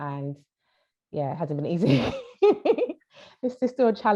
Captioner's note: laughs